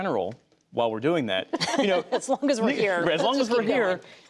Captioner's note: laughter